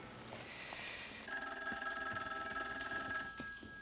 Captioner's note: telephone ringing